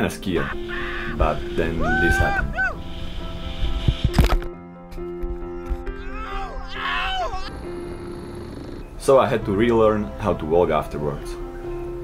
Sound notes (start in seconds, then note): 4.3 crunch; 6.2 yelling; 7.5 helicopter whirring